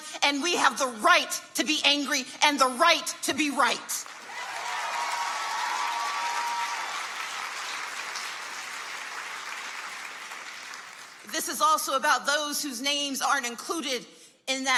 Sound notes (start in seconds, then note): 4.0 audience cheers and applauds